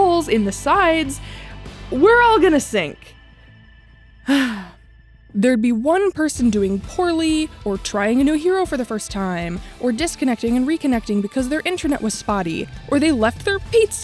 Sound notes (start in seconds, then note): 4.2 sigh